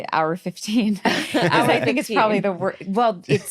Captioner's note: all laugh